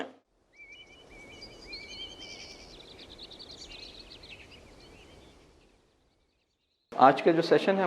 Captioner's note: birds chirping